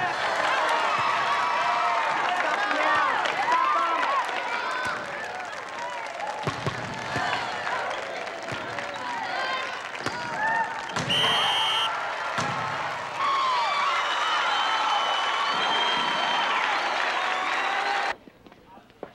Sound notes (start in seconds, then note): 10.9 whistle blows; 12.5 cheering